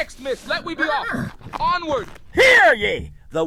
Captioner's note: horses neigh